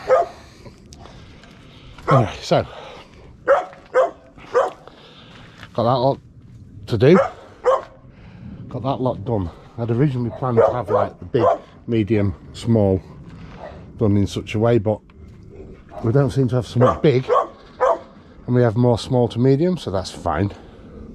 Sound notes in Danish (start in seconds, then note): 3.4 hund gøende; 10.2 hund gøende; 16.7 hund Gøende